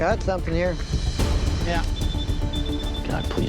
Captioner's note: beeping continues